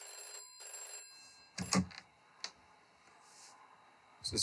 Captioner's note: phone ringing